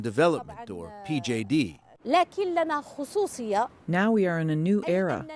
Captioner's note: through translator